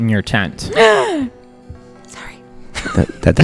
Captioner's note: gasps loudly, whispers